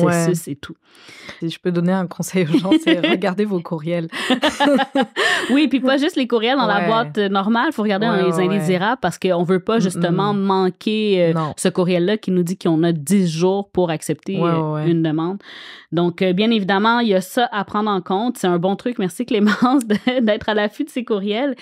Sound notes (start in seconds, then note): 4.0 laughs